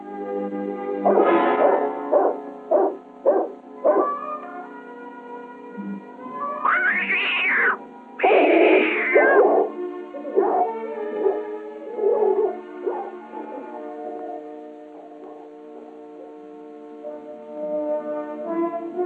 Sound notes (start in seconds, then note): 1.0 dog barking; 6.6 cat screeching; 8.2 dog barking